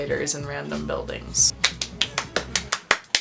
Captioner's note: clapping